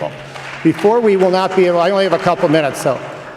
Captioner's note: applause